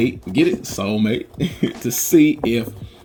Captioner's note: laughing